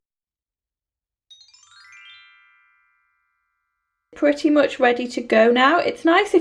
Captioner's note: chimes